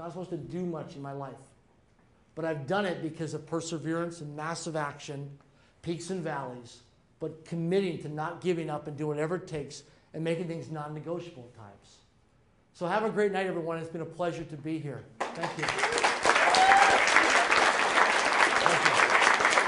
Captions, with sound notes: to do much in my life. But I've done it because of perseverance and massive action, keep some values, but committing to not giving up and doing whatever it takes and making things non-negotiable at times. So have a great night everyone. It's been a pleasure to be here. Thank you. (clapping) (cheering)